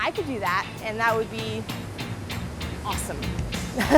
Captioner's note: laughs